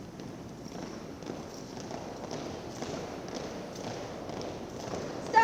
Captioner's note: students tap boots